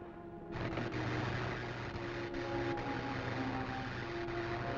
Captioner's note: static crackling